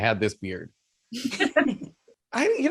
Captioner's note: laughs